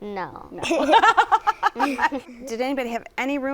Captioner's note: laughter